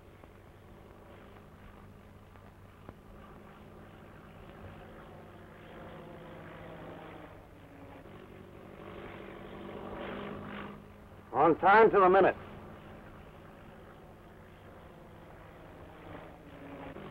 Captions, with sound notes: - On time to the minute. (engine rumbling)